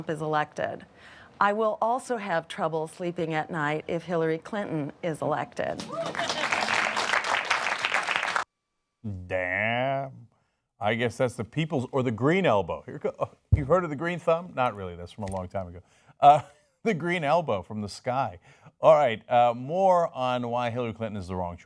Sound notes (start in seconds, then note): 5.8 cheers and applause